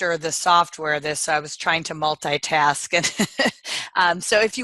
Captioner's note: chuckles